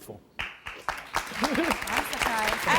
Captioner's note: applause